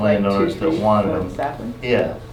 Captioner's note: audience member talking